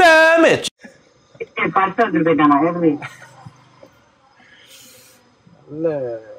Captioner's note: laughs